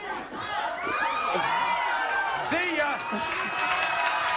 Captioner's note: audience cheering and applauding